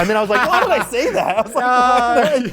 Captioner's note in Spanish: risas